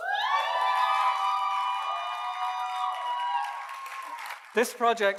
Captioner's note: audience cheers and applauds